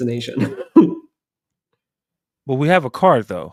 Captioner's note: chuckles